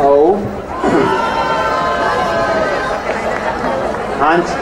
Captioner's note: crowd cheering